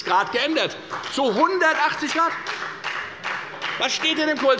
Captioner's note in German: Beifall bei der FDP